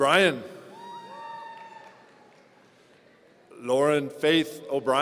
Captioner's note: audience cheering